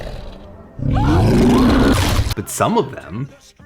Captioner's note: dinosaur growls; dinosaur roars; Dr. Sinclair screams